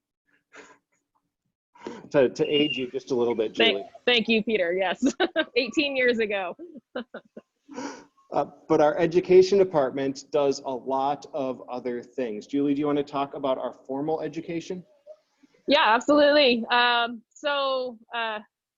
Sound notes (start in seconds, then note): 5.0 chuckles